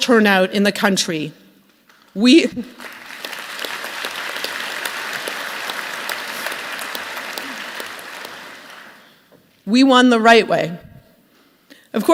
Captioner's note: applause